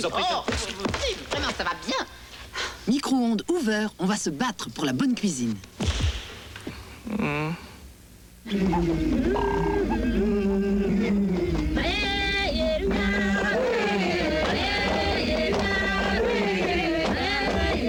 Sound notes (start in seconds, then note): 12.4 chanting